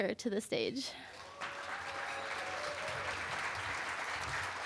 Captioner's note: applause